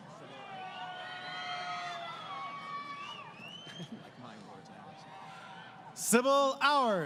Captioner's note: crowd Cheering